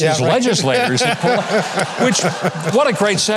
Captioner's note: Pat laughing